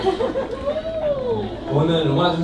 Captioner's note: cheers